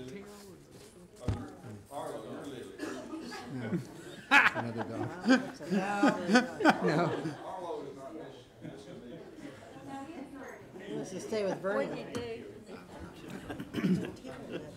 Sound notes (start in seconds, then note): 1.0 quiet chatter; 7.8 laughter; 11.3 chatter